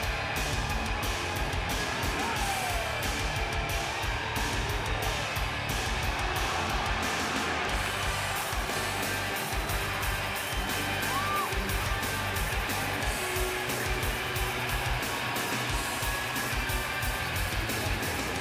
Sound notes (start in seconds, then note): 0.6 crowd cheering; 0.6 heavy metal music continues